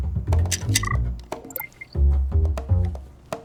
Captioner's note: pill dispenser clicks; electronic beep